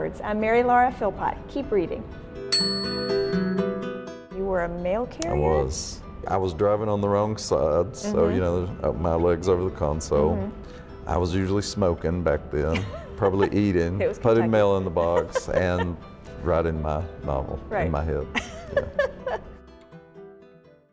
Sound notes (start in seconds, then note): 2.5 bell dings; 18.3 laughing